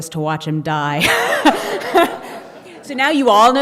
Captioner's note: laughing